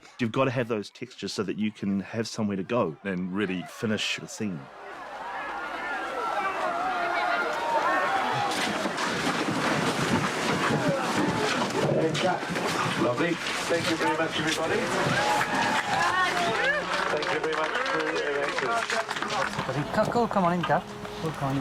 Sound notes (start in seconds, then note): 5.2 crowd screaming; 14.5 all cheering